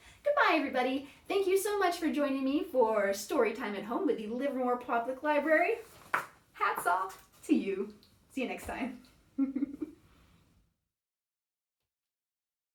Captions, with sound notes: Goodbye, everybody. Thank you so much for joining me for Storytime at Home with the Livermore Public Library. Hats off to you. See you next time. [Laughs]